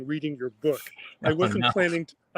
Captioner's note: John laughs